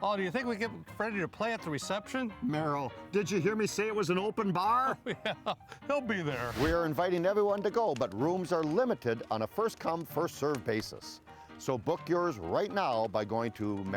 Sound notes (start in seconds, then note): 5.0 laughing